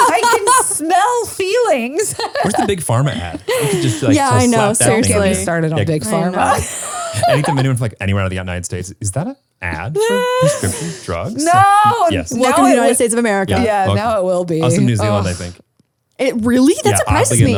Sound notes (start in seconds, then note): 1.4 laughs